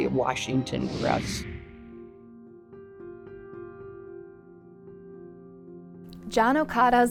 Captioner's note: screen whooshing; gentle music